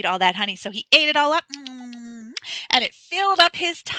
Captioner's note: lips smacking